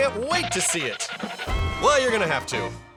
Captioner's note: pitter-patter!